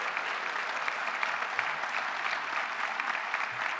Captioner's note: applause